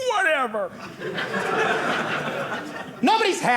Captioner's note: audience laughing